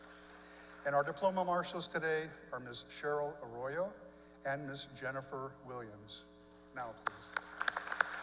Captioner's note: applause